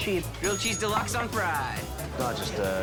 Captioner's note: bell dings